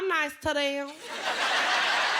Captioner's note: laughter